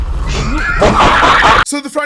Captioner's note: laughing